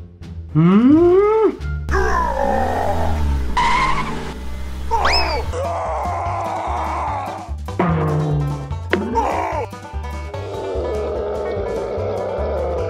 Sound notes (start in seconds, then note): 2.0 roar!